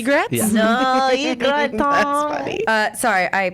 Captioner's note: laughs